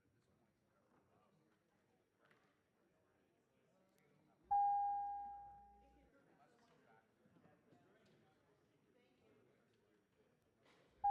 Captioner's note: dinging